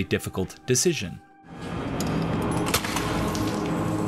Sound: in-game audio

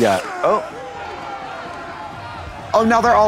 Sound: crowd clamors

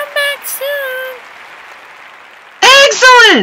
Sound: applause

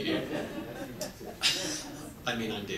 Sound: audience laughs

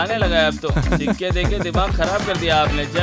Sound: laughs

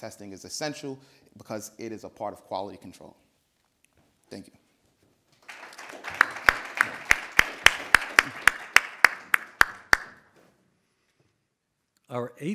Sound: audience applauding

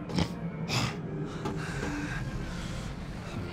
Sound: snarls

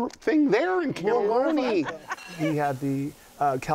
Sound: laughs

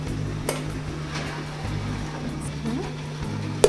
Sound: soft clinking

